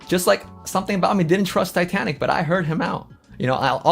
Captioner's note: none